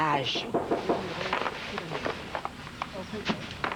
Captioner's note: On frappe à la porte